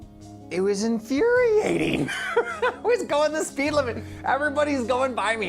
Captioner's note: laughs